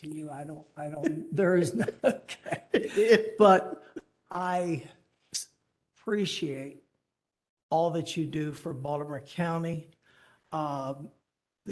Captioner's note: laughter